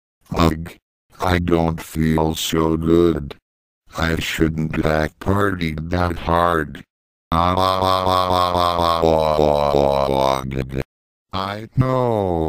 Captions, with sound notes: Ugh, I don't feel so good. I shouldn't have partied THAT hard. [MOAN] I know!